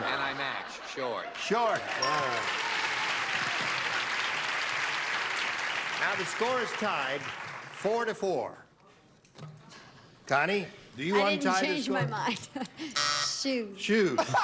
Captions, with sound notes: AND I MATCH. SHORTS. SHORTS. ALRIGHT. [CLAPPING] NOW THE SCORE IS TIED FOUR TO FOUR. CONNIE, DO YOU WANT TO UNTIE THE SCORE? I DIDN'T CHANGE MY MIND. SHOES. SHOES.